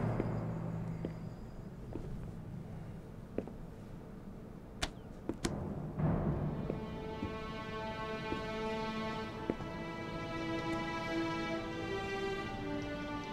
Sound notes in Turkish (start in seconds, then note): 0.0 Ayak sesi; 5.3 El vurma sesleri